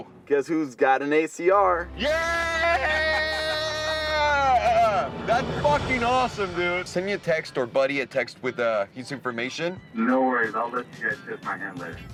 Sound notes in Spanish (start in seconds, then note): 2.6 risas